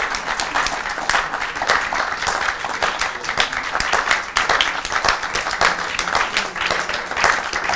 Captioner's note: applause